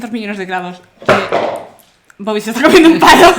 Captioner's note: noise of the stick falling to the ground